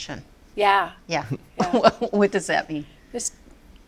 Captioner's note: laughs